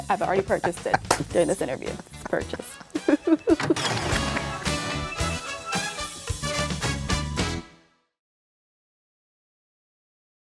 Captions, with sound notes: I've already purchased it during this interview. Purchased. (laughing) (upbeat music)